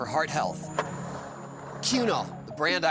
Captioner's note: skateboard wheels roaring